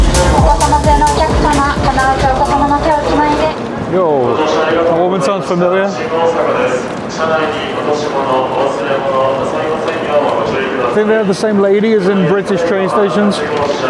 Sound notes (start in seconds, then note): 1.1 computer speaking Japanese; 7.6 train announcer speaking Japanese